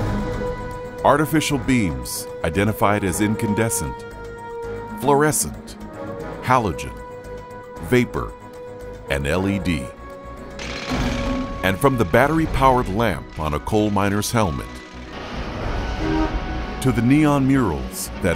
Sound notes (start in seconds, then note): 10.6 drill whirring; 15.2 traffic whooshing